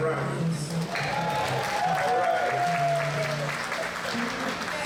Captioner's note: applause